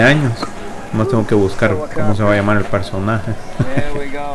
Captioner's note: laugh